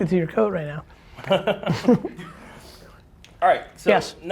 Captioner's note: laughs